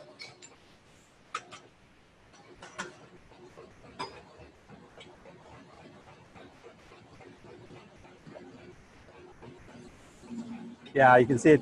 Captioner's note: silence